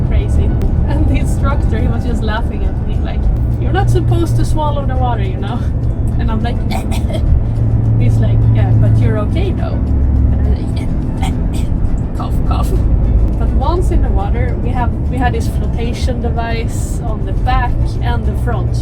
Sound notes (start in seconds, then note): 6.6 couch couch